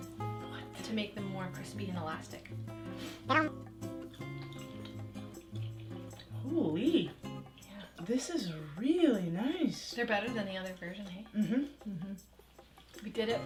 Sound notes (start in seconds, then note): 3.2 cute vocalizing